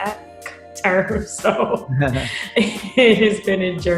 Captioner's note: laughs